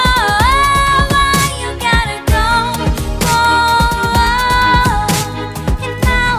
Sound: goooooh

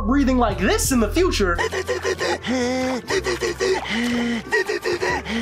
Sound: Spongebob Hyperventilating

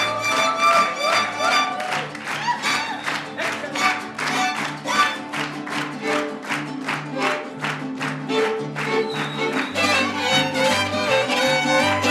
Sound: applause; clapping; mariachi music playing

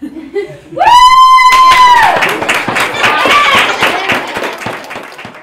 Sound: cheers & clapping

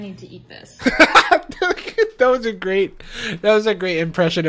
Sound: laughs

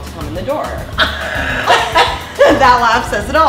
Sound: the two chuckling

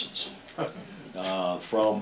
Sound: laughter

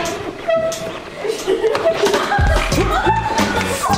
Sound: laughs

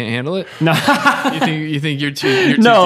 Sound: laughing

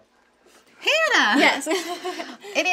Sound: laughing

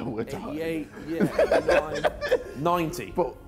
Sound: laughs

